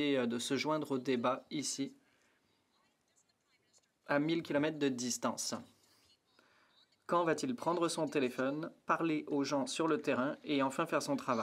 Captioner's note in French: voix de l'interprète